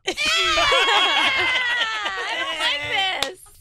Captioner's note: laughing